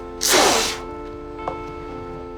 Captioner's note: loud Whooshing